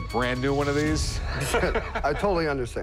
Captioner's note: laughs